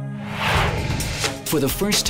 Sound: mellow music; whooshes

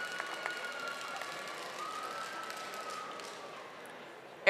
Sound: audience applauding

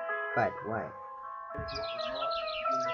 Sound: bird chirping

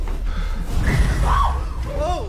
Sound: Raven shrieks

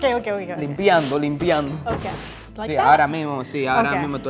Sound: speaking in foreign language

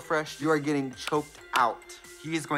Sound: claps

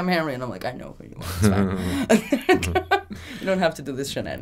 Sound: laughing

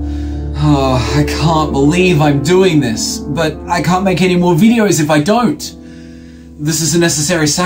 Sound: sigh

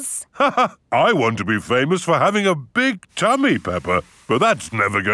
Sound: laughs

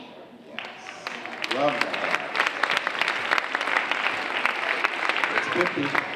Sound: audience applauding

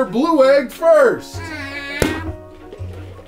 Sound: whining; popping

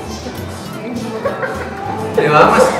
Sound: laughs

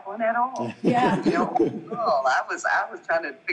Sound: group laughing

